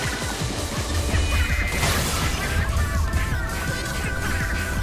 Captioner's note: Several splatbombs explode amongst the battle field